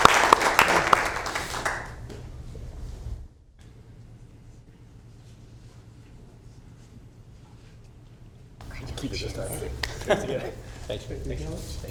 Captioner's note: applauding